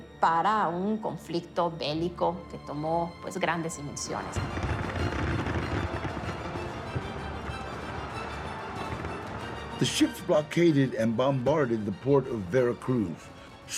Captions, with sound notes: for a war of much larger dimensions. -[gunshots ringing] -[music intensifies] [in English] The ships blockaded and bombarded the Port of Veracruz.